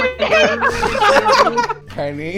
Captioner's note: laughter